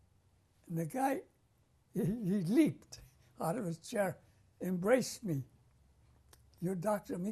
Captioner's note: laughs